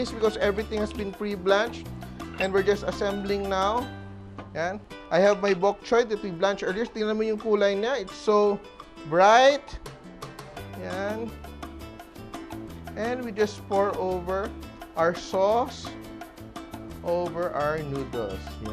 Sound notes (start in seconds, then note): 2.3 clink